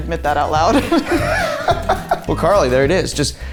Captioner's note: all laughing